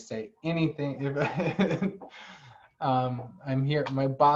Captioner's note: laughter